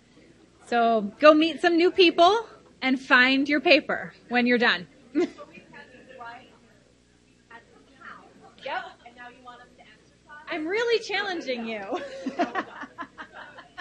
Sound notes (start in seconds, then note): 6.7 crowd noise drowns speaker; 12.0 laughs loudly